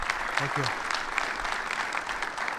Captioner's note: people clapping